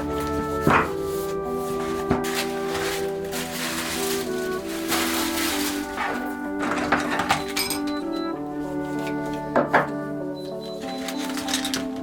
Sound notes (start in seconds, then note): 4.6 paper rustling